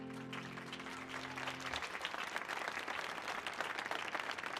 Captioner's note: audience clapping